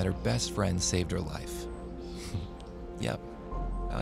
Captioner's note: laughs lightly